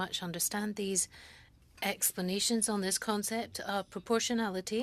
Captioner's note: speaking French